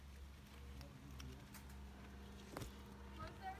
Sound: cracking twigs

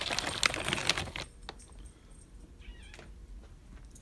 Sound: Caprice meows

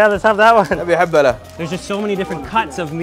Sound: speaks foreign language

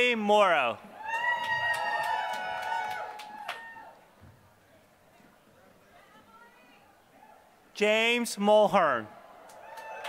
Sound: applause; applause

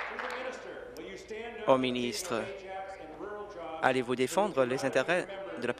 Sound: applause

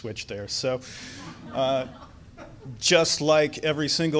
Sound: audience laughs

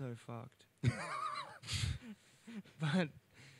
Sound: laughs

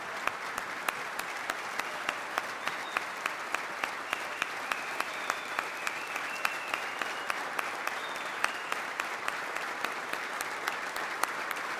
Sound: applause

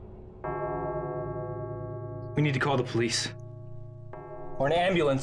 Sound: clock chimes

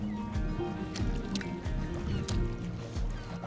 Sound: birds cawing

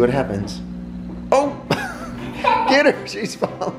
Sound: chuckles

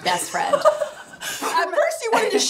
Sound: laughing

